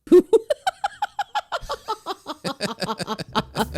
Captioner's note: laughing